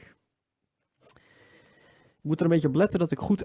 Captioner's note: deep inhale 3